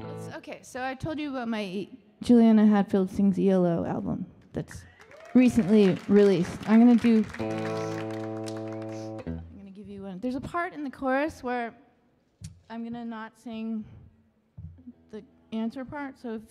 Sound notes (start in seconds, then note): 4.9 audience applauding and cheering